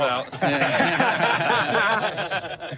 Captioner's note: laughter